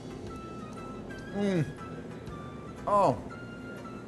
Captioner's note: humming